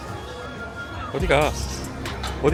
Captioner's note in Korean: 의미 없는 외침